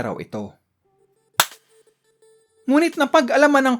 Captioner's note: clap